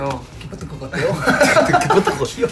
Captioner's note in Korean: 웃음